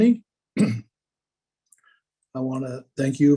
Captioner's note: clears throat